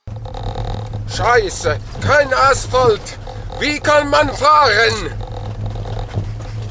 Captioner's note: in German